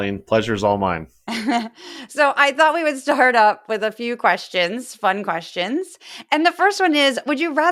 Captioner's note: laugh